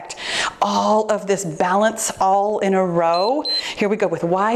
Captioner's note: timer beeps